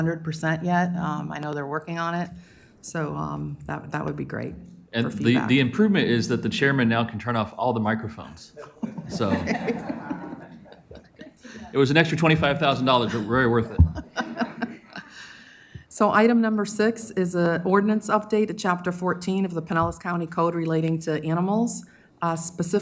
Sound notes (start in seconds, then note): 12.9 laughter